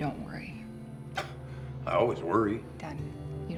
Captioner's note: scoffs